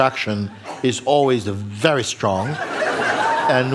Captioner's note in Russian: смех